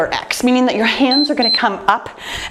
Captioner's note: timer beeping